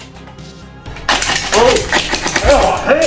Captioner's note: airsoft gunfire